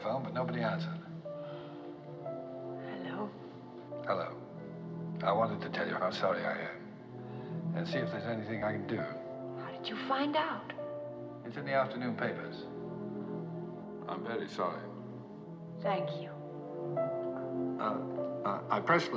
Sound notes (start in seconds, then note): 2.6 sighs